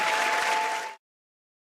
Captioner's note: cheers and applause